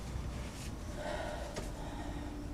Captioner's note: sighs